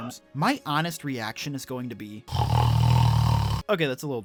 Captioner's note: snore